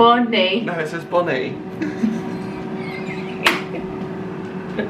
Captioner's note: laughs; claps